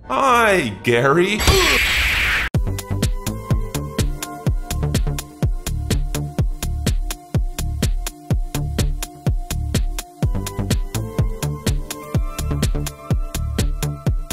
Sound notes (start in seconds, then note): 1.6 grunts; 2.8 upbeat music